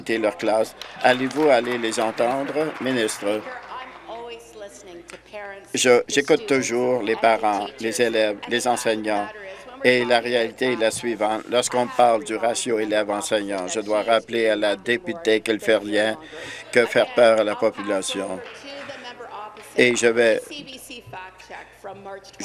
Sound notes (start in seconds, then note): 3.4 applause